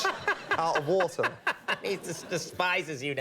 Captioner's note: Conan laughs